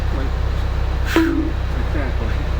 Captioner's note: bonk